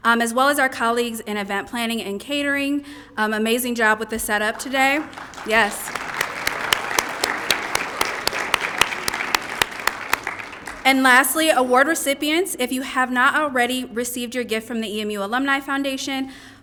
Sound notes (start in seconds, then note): 6.6 applause